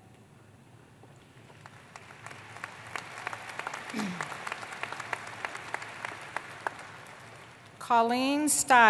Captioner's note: applause